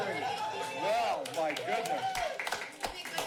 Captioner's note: cheers; claps